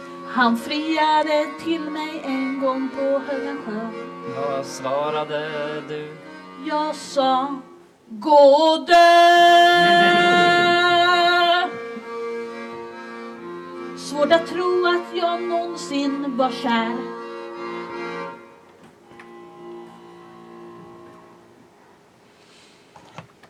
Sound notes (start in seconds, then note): 9.6 laughter